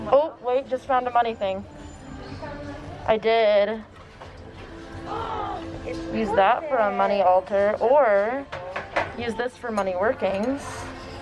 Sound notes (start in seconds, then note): 5.3 gasps